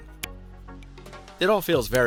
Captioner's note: case clicking